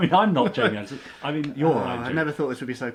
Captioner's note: laughs